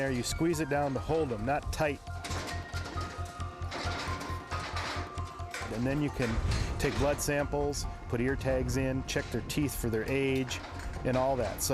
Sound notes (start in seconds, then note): 2.6 metal clanging